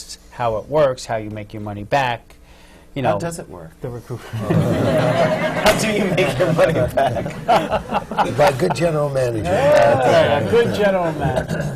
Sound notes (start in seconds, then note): 4.3 laughter; 7.2 laughs